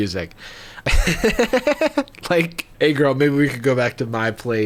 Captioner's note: laughing